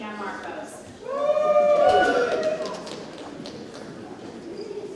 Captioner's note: audience cheers